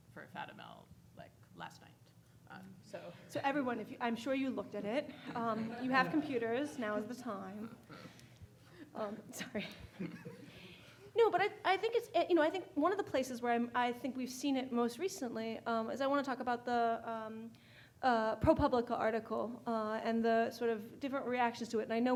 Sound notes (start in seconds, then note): 5.0 audience laughing